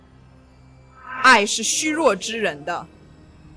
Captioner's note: Mandarin language